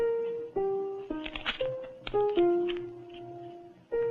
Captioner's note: paper rustles